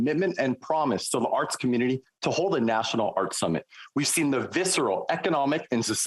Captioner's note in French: voix de l'interprète